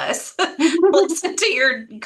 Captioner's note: chuckles